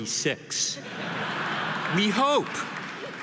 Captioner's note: audience laughing